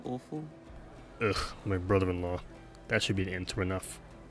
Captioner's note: groans